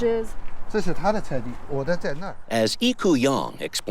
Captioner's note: speaks native language